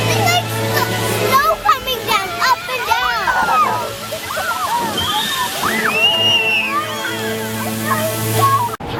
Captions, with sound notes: - It's like snow coming down, up and down. (children scream and laugh)